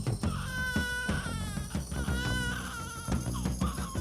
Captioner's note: upbeat music; child crying